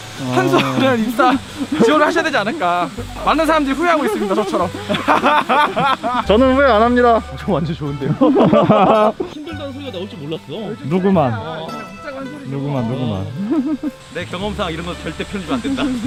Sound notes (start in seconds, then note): 4.8 laughing out loud